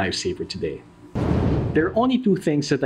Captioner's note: whooshing